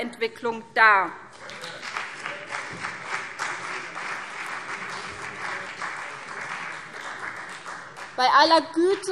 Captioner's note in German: Beifall CDU und BÜNDNIS 90/DIE GRÜNEN - Zuruf Freie Demokraten: Hört, hört!